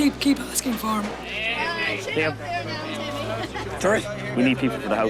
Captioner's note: background chatter